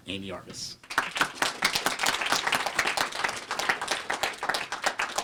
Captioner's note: applause